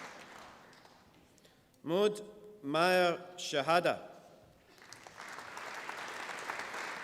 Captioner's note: applause